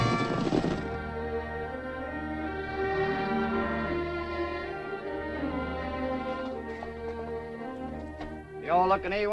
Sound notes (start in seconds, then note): 1.6 cattle mooing; 1.6 gentle music